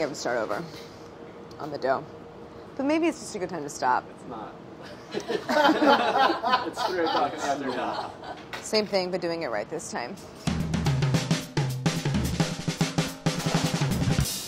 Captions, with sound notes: I think I have to start over on the dough. But maybe it's just a good time to stop. - It's not. [laughing] It's three o'clock in the afternoon. - Same thing, but doing it right this time. [upbeat percussion music]